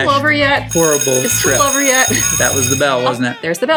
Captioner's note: bell ringing